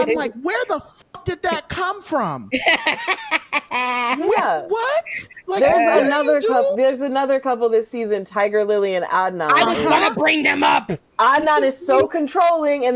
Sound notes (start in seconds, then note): 4.1 laughing